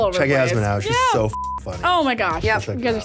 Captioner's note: beep